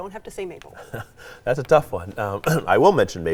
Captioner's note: chuckles